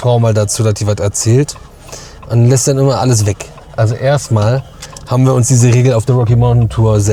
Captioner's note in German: schnauben